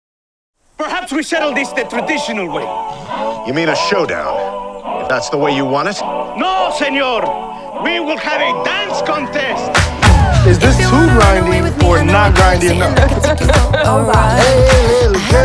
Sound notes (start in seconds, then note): 11.8 laughing